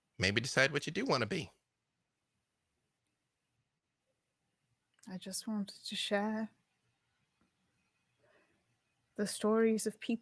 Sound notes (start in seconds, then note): none